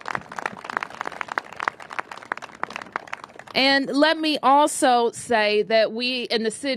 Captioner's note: applause